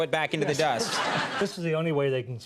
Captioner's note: audience laughs